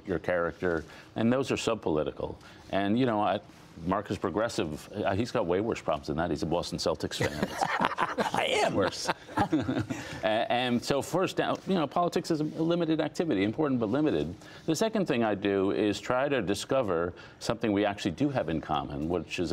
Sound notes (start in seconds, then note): 7.2 laughter